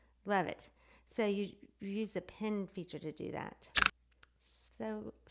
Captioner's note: clicks